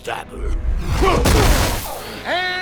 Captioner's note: wincing